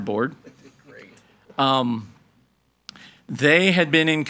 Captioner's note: participants laughing